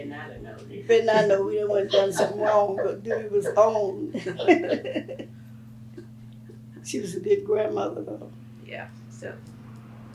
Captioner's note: laughs